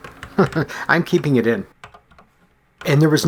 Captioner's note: chuckles